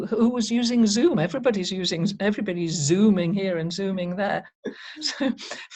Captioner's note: chuckles